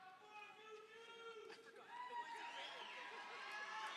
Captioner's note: audience cheers